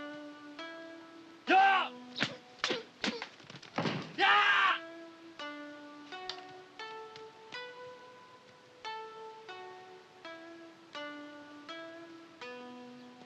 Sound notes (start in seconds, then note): 2.0 shouting